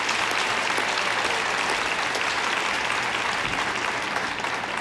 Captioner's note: audience applauding